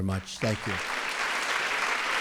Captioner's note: applause